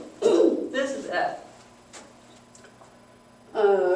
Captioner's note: cough